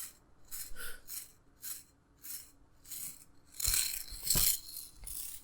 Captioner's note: brush bristles rustling